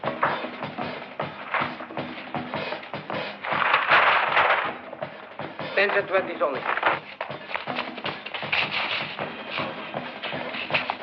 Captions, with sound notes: [bag ruffling] Tens and twenties only. [tense music]